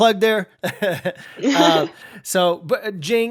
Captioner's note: chuckles